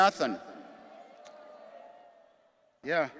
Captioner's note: attendees cheering